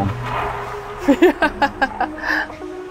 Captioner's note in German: lacht